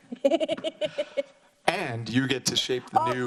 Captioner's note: chuckles